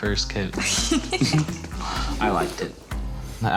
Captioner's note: laughter